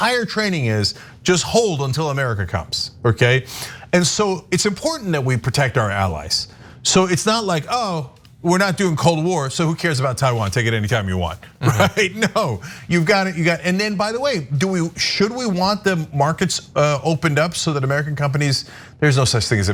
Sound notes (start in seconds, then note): 11.6 laugh